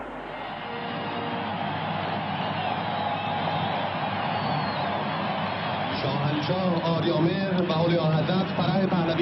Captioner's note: applause